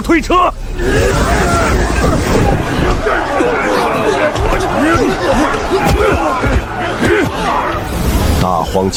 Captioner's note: grunting labor sounds